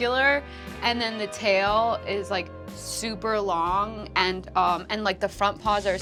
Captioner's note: none